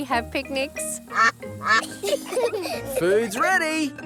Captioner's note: quacking; children giggle